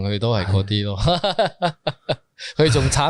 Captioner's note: sighs